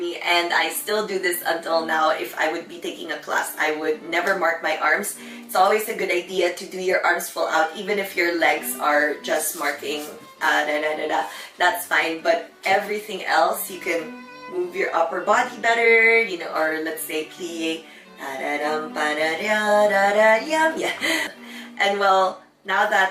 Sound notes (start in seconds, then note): 16.1 hums melody